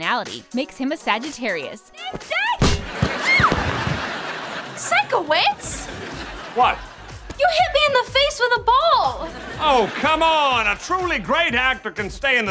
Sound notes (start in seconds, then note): 1.6 shouting; 2.7 squealing